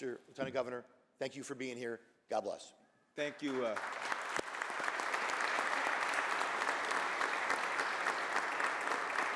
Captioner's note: applause